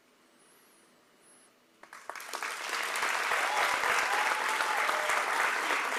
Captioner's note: applause